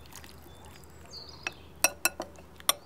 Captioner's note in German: Vogelgezwitscher